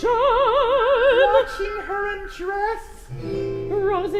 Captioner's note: client in falsetto